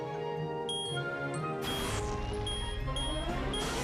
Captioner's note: beeping